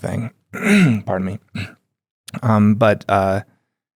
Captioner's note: clears throat